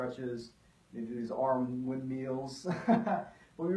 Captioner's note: laughs